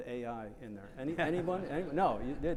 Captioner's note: attendees laughing